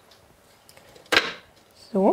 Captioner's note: click